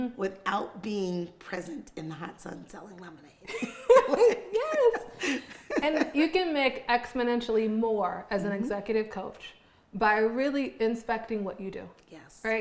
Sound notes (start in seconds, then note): 3.5 both women laughing